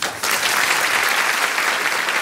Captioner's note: applause